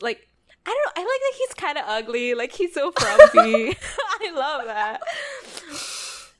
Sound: laughs

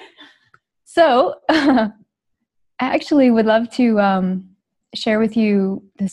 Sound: giggles

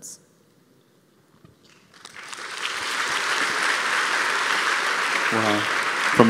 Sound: applause

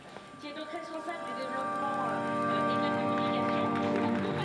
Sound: French spoken audio

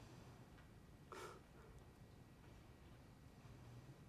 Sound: chuckles

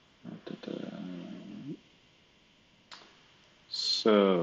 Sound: humming

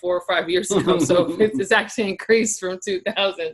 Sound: laughs

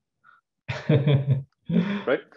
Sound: chuckles

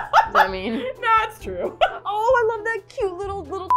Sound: laughs

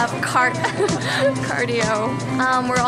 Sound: laughs

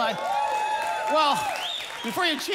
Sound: congregation cheering

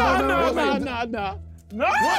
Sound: screaming

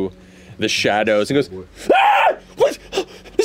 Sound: screams

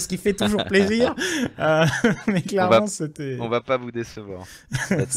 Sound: laughing

